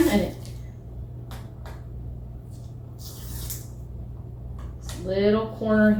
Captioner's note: tearing sound